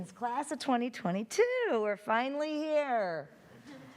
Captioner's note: chuckling